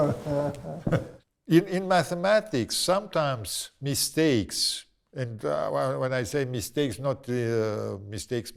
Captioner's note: laughs